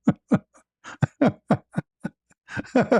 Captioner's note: ketawa